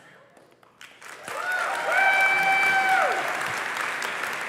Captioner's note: applause